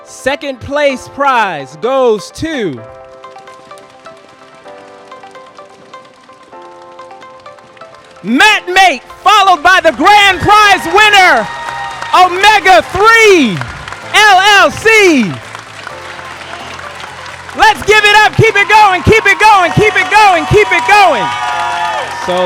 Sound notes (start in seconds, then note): 3.4 audience gently drumming; 14.6 audience applauding and cheering